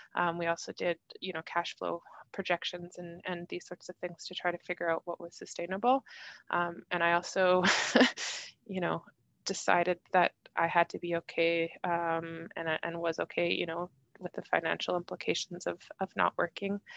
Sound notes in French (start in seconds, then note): 7.6 rires